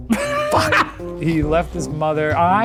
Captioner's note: laughs